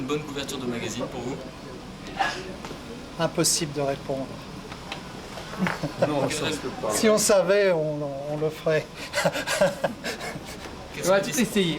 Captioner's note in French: rires